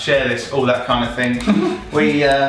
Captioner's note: clicking sound